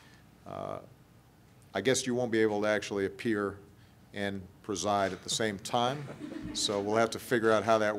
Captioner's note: laughter